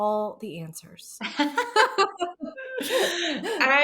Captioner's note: laughing